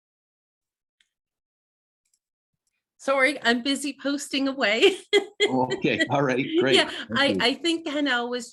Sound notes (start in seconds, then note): 4.9 laughs